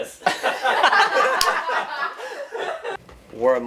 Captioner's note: all laughing